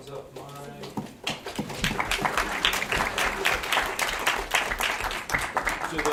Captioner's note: attendees clapping loudly